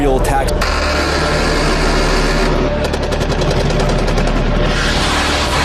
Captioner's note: military weapons firing